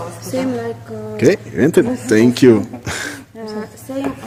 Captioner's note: laugh